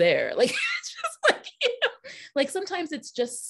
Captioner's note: laughing